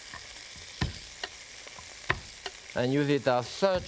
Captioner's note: knife tapping